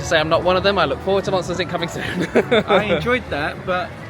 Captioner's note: laughs